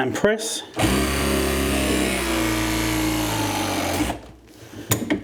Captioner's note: press gun vibrates loudly